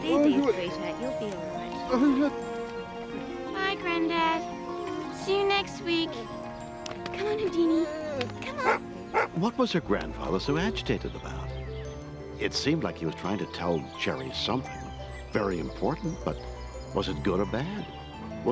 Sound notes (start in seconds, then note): 8.5 dog barking